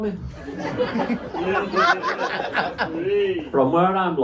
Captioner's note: laughter